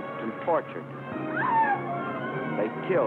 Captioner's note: screaming